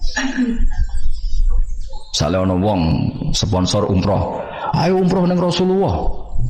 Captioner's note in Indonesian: tertawa